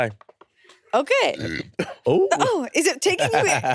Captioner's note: burbs